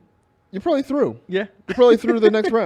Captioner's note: laughs